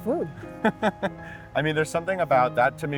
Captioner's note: laughing